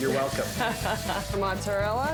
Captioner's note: laughs